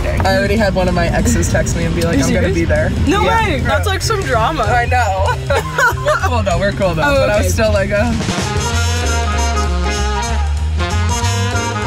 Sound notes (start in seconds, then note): 5.0 laughing; 8.5 playful jazz music